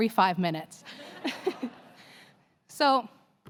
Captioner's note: laughter